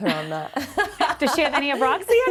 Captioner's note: laughs